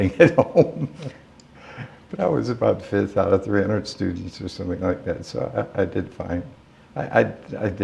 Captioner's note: laughter